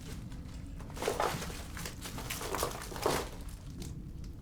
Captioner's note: debris crunches